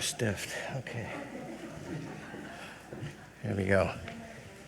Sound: people chuckle

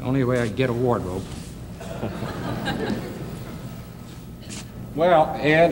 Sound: audience laughs

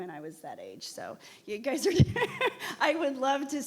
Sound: laughs

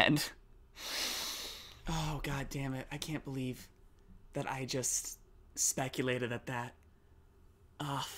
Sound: long inhale

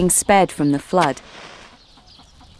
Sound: match strike

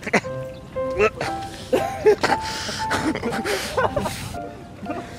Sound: keeps gagging

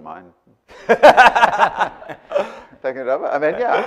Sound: laughing

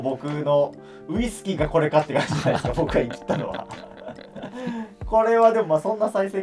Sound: laughing

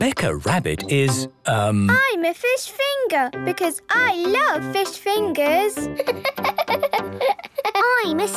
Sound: laughing

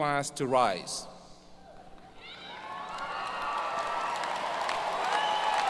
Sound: audience cheers and applause

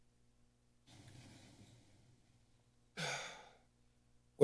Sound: silent

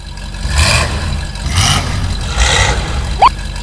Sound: engine revs; beep

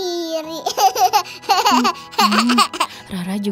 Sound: laughing

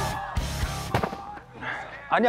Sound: hitting

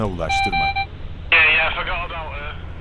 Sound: radio sounds

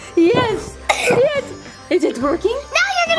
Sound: audio chiming; coughs

